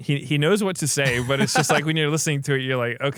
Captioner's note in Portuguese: risos